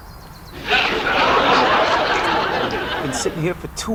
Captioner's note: audience laughs